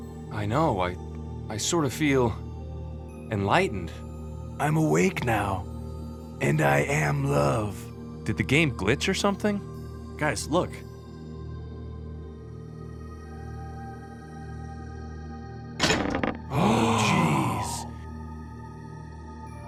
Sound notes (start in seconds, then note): 16.5 N00bly and POOPLOSER_69 gasp